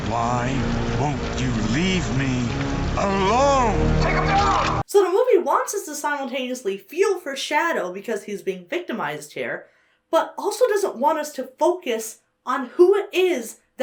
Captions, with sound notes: - Why won't you leave me alone? (ominous music) - [Bullhorn] Take him down! - So the movie wants us to simultaneously feel for Shadow because he's being victimized here, but also doesn't want us to focus on who it is